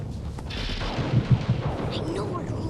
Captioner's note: thunder crashes